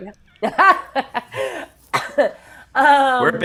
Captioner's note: laughs